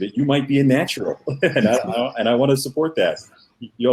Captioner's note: laughter